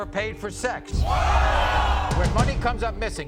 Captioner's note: audience oohs